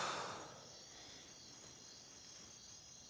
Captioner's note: exhaling nervously